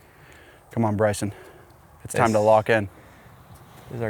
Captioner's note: none